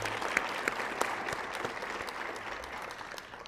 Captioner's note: applause